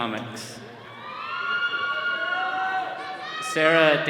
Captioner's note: attendees cheering